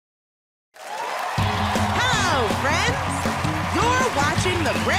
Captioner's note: cheers and applause